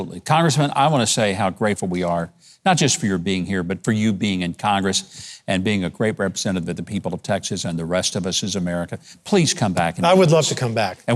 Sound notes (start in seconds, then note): none